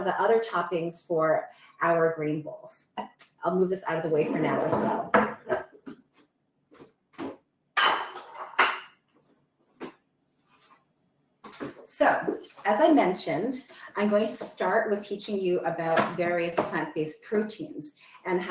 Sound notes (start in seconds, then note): 7.8 plates clatter